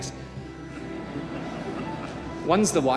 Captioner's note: audience laughing